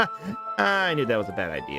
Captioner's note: laughs